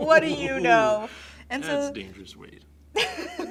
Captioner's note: chuckles